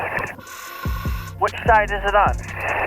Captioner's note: apparatus inhales